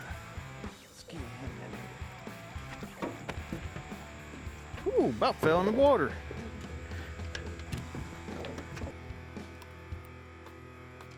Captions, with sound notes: (boat clanging) Oh, about fell in the water. (optimistic music)